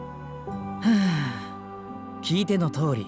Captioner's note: sigh